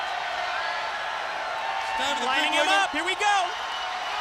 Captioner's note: crowd cheering